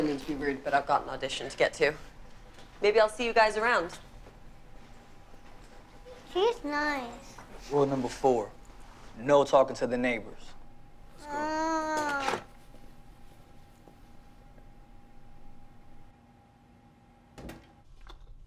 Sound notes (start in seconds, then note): 11.6 Matthew groans